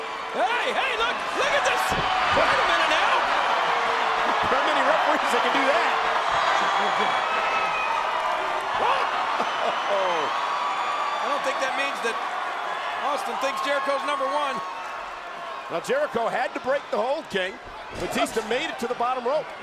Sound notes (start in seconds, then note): 6.5 laugh; 6.5 applause